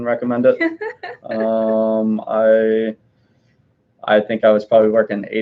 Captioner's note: laughing